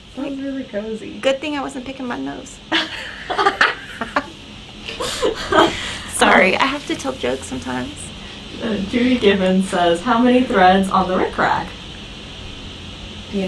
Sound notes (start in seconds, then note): 2.9 all laugh